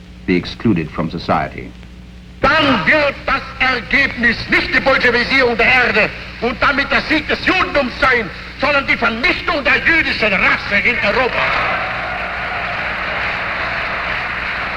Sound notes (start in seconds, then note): 2.4 man speaking in foreign language; 10.7 crowd applauding